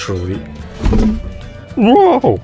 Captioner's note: bump into table sound